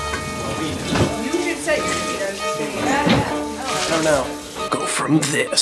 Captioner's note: water running and kitchen chatter